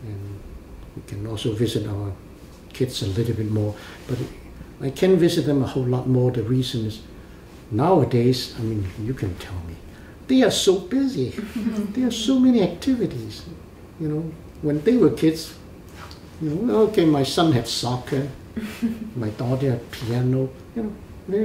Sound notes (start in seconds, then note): 11.4 laugh